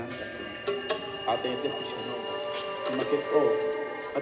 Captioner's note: speaks in Maya